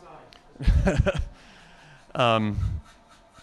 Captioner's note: laughing